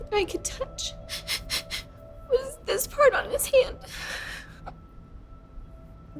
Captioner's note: sobbing; sighs; dramatic music